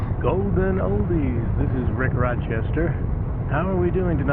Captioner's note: radio